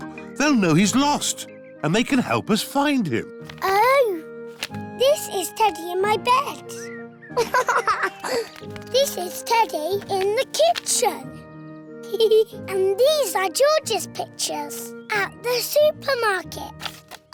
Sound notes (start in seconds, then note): 7.3 giggles